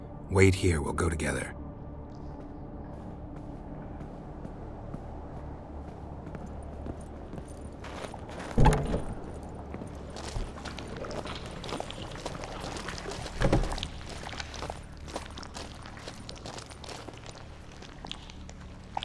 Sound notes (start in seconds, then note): 10.4 liquid sloshing